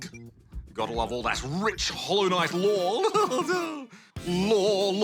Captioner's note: laughs